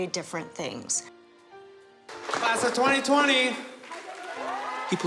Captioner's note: cheering, applause